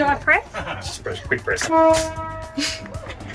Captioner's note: train honks